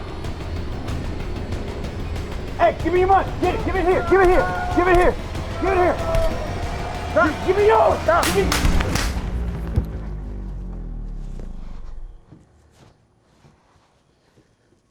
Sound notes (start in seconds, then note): 7.8 gun shots